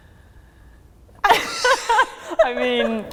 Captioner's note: both laughing